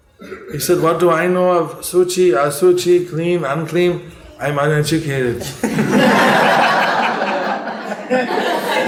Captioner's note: laughter